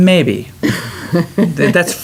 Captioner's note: laughter